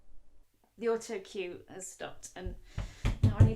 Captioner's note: sounding very tired